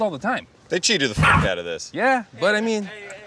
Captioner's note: Mochi barks